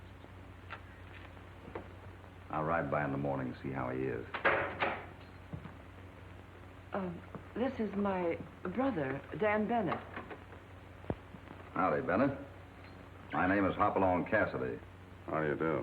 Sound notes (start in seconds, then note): 4.3 door opens